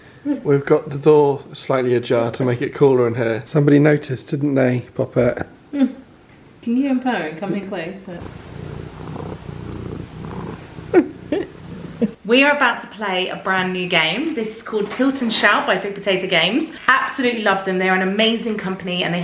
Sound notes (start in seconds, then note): 7.9 Ginger purring